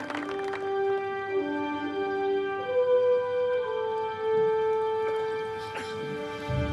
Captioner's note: applause